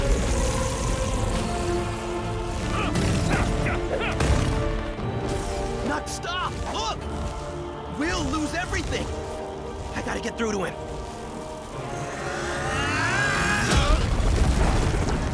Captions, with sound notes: [grunting] Knucks, stop! Look! We'll lose everything. I gotta get through to him. [grunting]